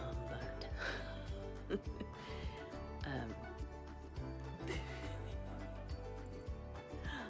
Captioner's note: laughs